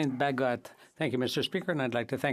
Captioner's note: speaking French